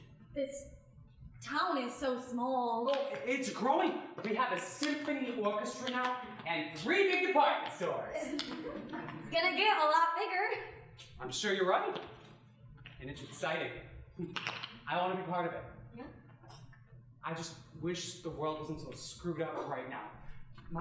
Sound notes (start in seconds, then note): 8.2 audience chuckling; 14.2 chuckling